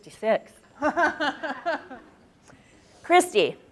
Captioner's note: laughing